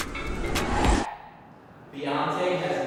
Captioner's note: whoosh